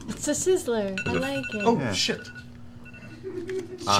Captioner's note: phone ringing